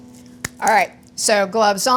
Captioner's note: clapping